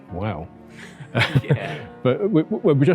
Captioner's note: laughs